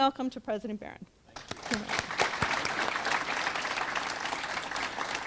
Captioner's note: audience clapping